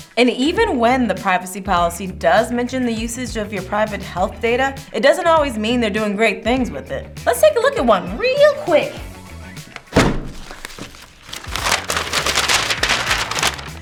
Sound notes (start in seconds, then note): 9.6 paper rustling